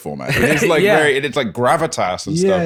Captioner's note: laughs